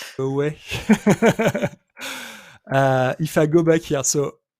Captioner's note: laughs